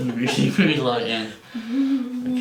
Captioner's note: giggles